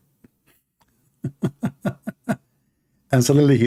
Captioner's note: Ketawa